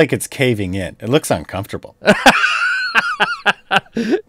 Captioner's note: laughs